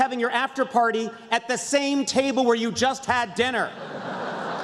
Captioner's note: laughter